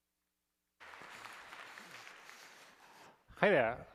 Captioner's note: applause